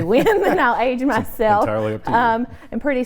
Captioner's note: laughs